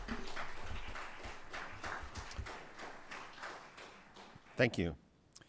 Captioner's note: applause